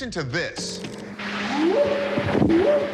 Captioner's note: distant whooping